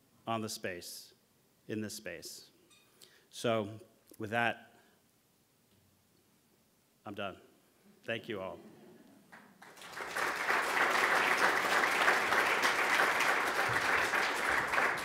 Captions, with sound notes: on the space, in this space. So with that, I'm done; thank you all. (audience applauding)